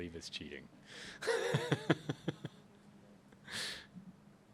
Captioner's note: laughs